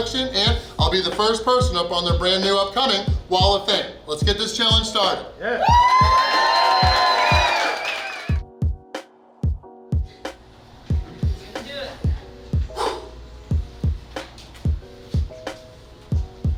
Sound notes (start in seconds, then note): 5.6 clapping & Cheering